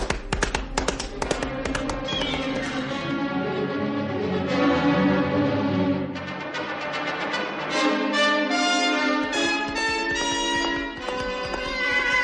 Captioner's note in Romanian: Aplauze